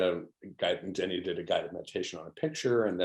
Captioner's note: faintly speaking